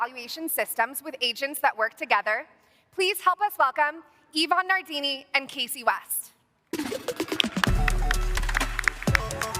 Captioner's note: applause